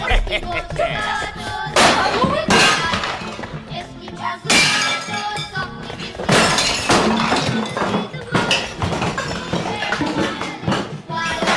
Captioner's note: sounds of ransacking studio